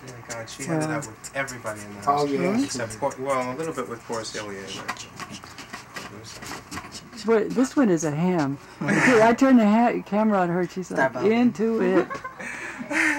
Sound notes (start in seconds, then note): 7.3 voiceover